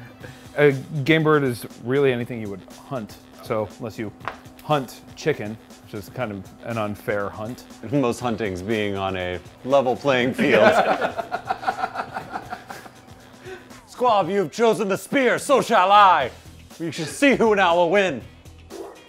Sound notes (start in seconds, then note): 10.4 laughing